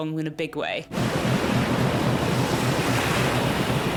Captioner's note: waves gush